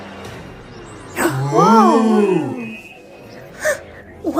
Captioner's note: Hailey distressed; various awes